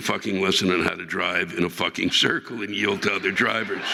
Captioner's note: audience laughing